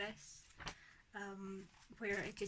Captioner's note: pages flipping